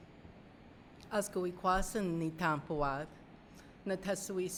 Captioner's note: speaking narragansett